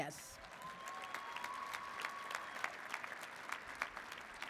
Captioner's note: audience applauds